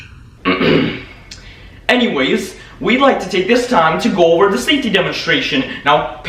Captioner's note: clears throat